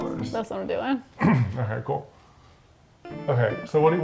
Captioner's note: clears throat